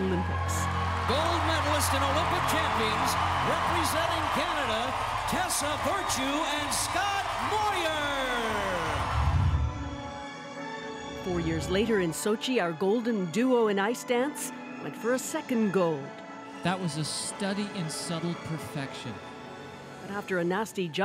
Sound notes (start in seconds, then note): 10.8 cheers and Applause